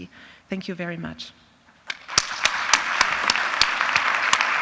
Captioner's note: applause